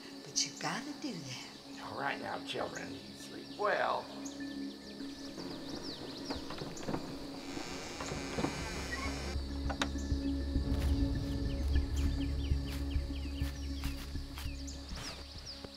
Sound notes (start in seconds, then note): 7.5 door squeaking